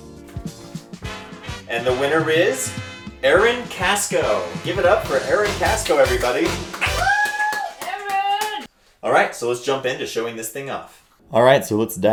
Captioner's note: claps and cheers